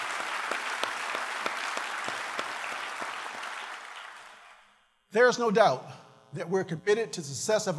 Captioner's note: applause